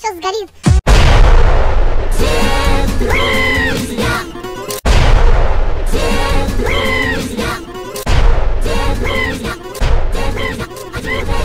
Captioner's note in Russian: взрыв